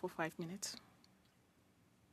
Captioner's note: speaking French